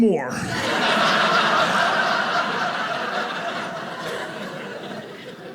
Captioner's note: audience laughing